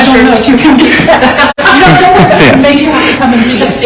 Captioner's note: all laugh